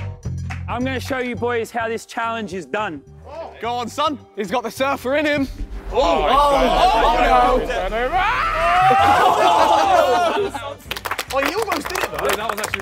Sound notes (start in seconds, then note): 5.9 contestants yelling; 10.9 contestants laughing and clapping